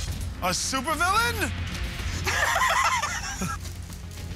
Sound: laughter

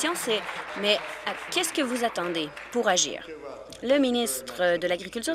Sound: applause

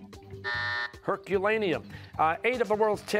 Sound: buzzer

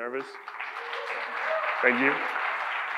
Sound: audience applauds

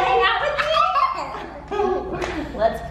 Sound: giggling

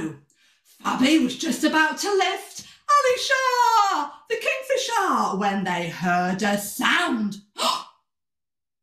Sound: gasp

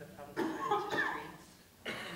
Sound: coughing

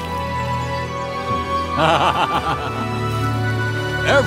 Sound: laughs creepily

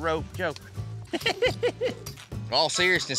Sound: laughing

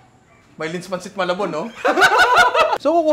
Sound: laughter

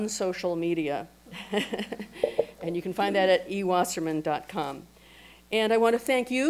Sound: laughs

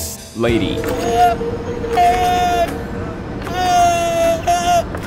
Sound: street performer roaring

